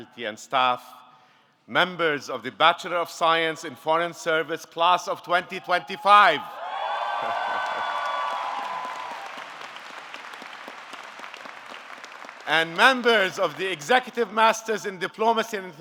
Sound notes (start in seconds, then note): 6.6 audience cheering; 7.0 audience clapping